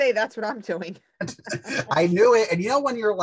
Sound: both laugh

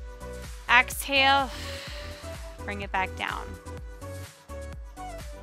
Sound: exhales slowly

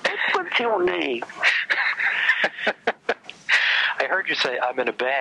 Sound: laughs

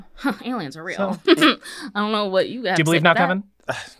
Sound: laughs

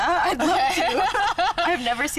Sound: laughing

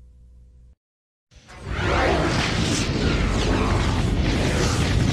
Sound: dramatic sounds continuing

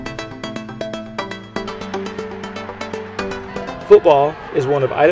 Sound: crowd cheering

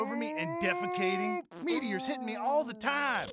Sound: fart

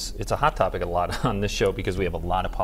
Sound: laughter

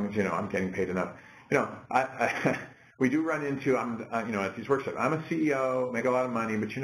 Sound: laugh

